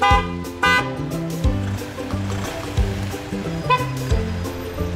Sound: car horn honks

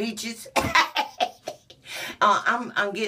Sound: laughs

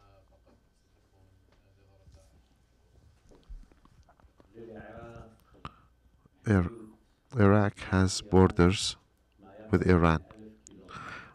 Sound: through translator

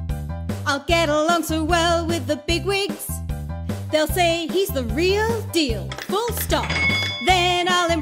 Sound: telegraph bell

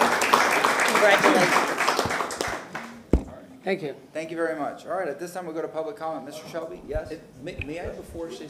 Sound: applause

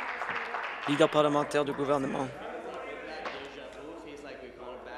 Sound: applause

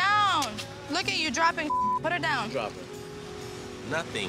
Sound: beep

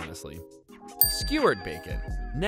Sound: dings

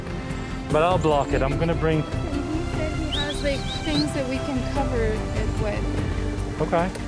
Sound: whistle

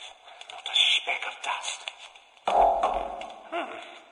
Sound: Richtofen bangs on it

